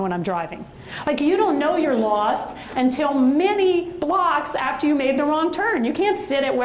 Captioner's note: audience chuckles